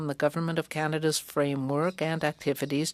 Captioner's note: speaking french